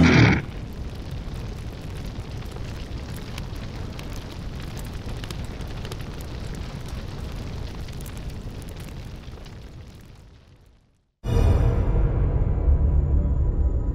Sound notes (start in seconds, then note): 0.6 fire crackling; 11.2 eerie music